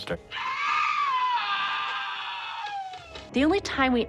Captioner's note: man screaming